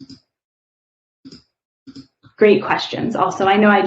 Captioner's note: keyboard clicking